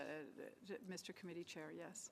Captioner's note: speaking French